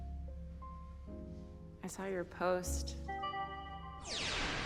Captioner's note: system beeps, whirs